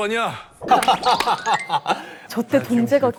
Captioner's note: laughing